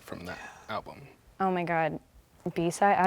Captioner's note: confused